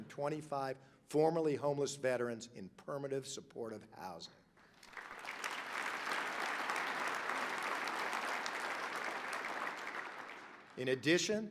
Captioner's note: applause